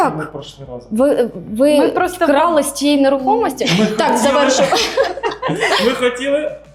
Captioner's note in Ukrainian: сміх